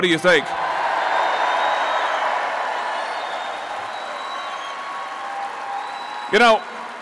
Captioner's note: applause